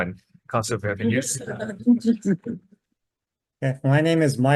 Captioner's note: attendees laughing